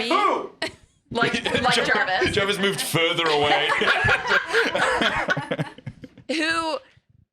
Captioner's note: laughing